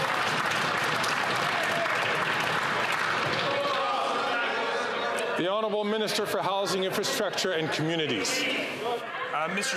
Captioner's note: some Applause